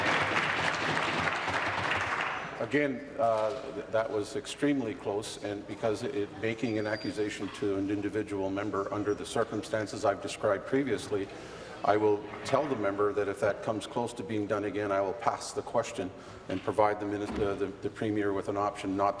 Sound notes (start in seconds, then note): 2.1 applause